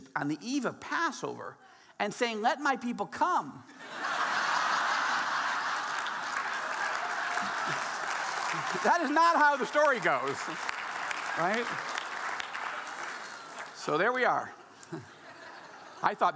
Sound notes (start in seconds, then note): 3.7 audience laughing